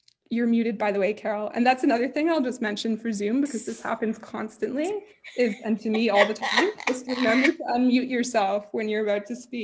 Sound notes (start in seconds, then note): 5.3 laughs